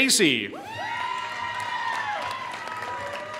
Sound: applause

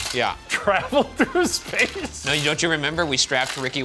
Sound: laughs

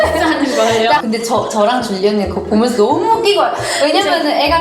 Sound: laughed

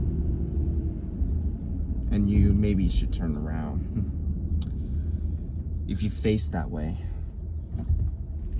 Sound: chuckles

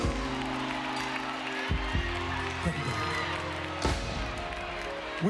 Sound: applause

